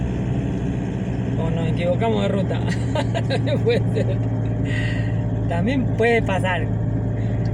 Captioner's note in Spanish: risas